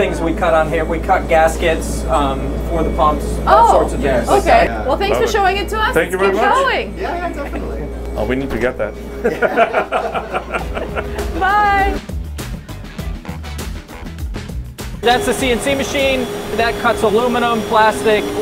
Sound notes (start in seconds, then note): 9.2 laughing; 12.6 upbeat music